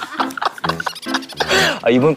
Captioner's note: hahahaha